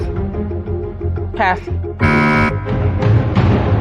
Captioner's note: buzzer sounds